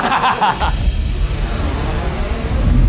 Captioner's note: laughs; dramatic music